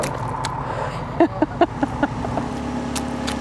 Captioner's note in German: Sie lacht